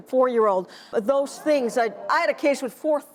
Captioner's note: audience groans